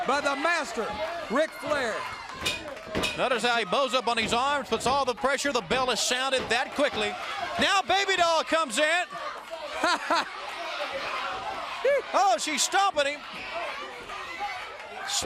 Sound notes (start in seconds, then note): 3.3 bell dings